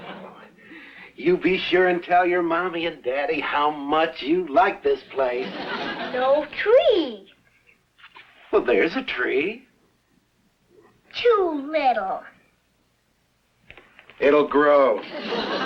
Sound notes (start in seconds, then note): 0.0 audience laughs; 5.3 audience laughs; 15.0 audience laughs